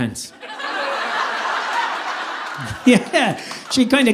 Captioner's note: audience laughing